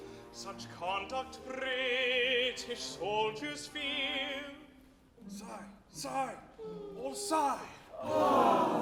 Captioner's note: sigh, sigh, all sigh!